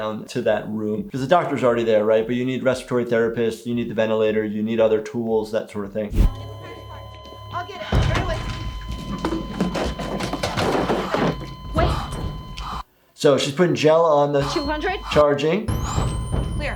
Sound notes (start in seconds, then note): 6.5 monitor flat lining